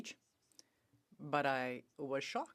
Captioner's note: speaking French